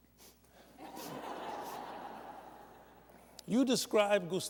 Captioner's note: laughter